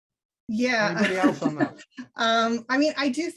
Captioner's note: laughs